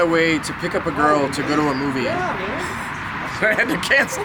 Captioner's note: laughs